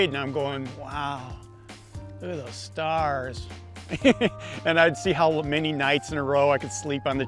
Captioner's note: laughs